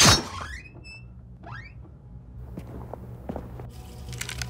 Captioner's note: door creaking